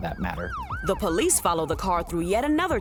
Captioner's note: sirens blaring